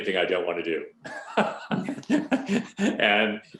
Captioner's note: laughing